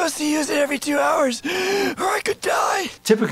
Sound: sharp inhale

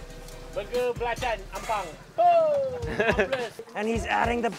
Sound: speaking in foreign language

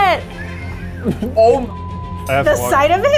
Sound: beep

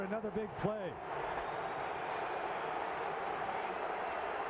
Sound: cheering, applause

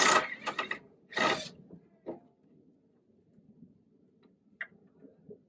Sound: electric drill sound

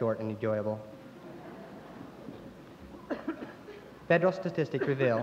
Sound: laughter

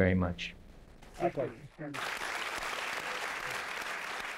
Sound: applause

